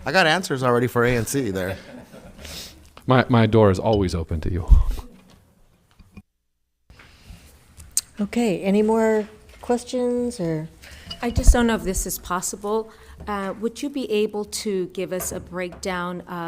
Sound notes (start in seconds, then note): 1.6 laughing